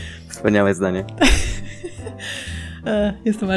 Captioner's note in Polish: śmiech